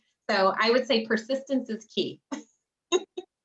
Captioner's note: laughs